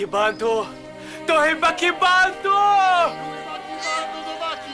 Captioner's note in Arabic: الصوت المنطوق البدوي